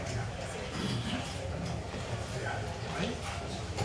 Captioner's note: people chatting